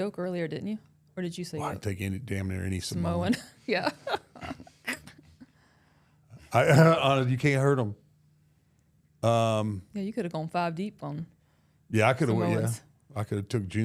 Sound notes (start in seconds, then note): 3.8 laughs